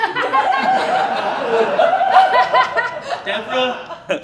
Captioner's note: laughter